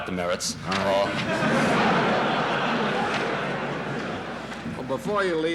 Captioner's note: laughter in the courtroom